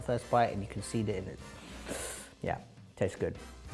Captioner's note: inhales